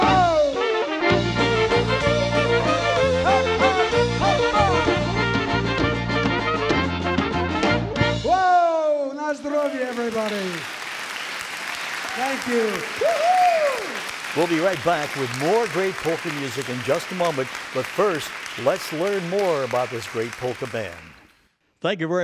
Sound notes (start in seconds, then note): 3.7 singing in foreign language; 11.6 audience clapping; 14.9 voiceover